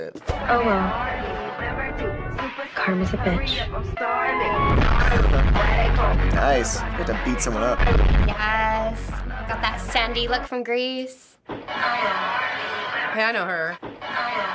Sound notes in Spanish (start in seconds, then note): 4.3 la música se intensifica; 5.0 risitas